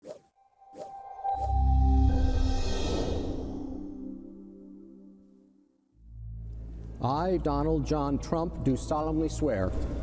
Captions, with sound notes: (air whooshing) (bright music) - I, Donald John Trump, do solemnly swear.